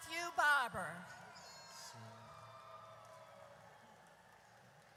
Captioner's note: audience cheers